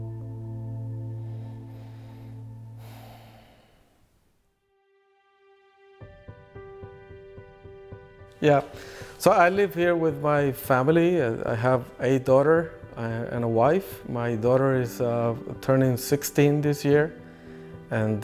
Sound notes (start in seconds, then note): 2.6 sighs; 6.3 spirited uplifting music